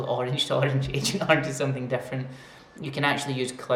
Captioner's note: laughs